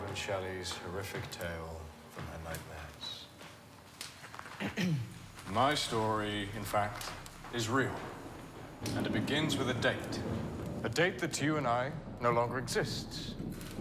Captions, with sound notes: horrific tale from her nightmares. (Percy clears throat) - My story, in fact, is real and it begins with a date. A date that to you and I no longer exists.